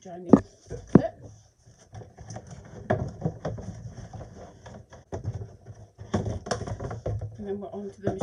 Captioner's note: rustling